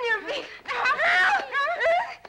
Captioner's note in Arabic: صراخ النساء